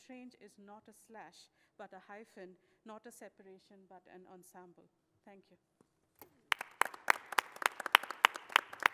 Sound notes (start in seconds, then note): 6.4 applause